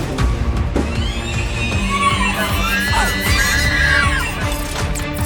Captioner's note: shrieker sounds